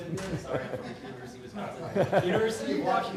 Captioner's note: laughter